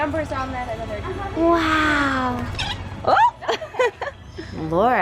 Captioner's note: laughs